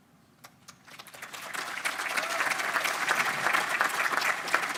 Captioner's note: audience applause